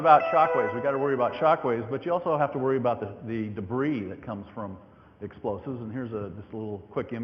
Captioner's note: computer tone